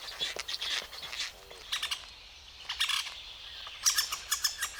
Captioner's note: bird tweets